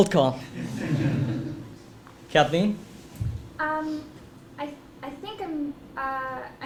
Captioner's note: laugh